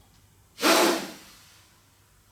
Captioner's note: sharp exhale